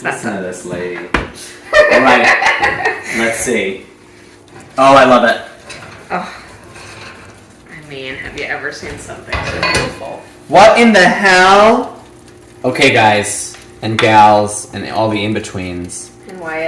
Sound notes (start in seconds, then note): 1.7 laughs